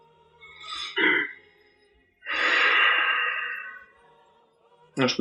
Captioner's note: sighs